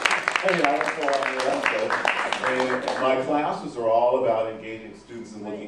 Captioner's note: claps and 'whooo'